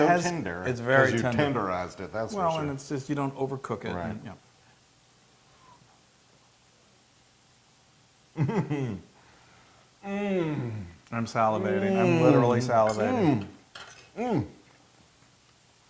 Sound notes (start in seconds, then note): 8.4 laugh